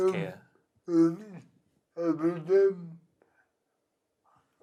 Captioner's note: murmurs